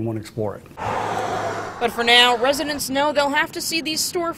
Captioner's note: sound of cars